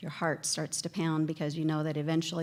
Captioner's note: none